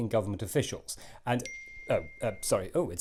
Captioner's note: ping